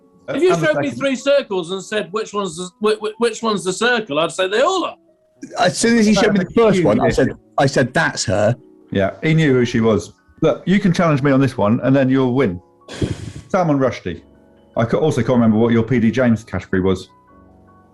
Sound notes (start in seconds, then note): 12.9 sighs